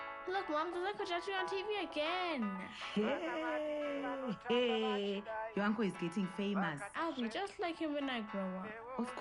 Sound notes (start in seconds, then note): 2.9 Neria cheers